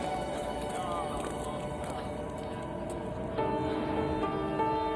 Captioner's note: group chattering; suspenseful music; pensive music